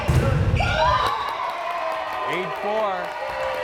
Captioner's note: crowd cheering; players cheering